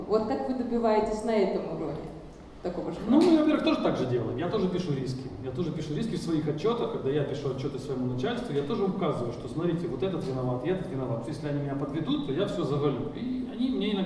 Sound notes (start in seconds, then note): 3.2 speaking in foreign language